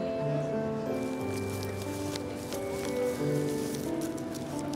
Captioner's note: paper rustling